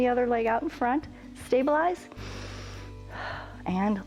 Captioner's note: inhales and exhales